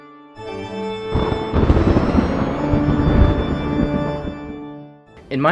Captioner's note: thunder booms